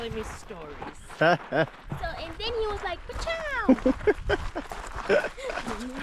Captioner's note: chuckling